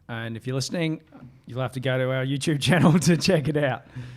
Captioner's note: laughing